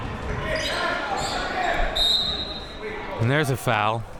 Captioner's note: whistle blowing